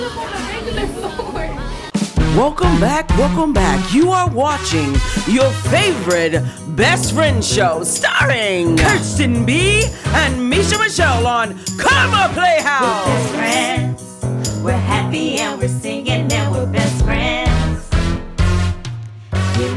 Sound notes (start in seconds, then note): 2.3 voiceover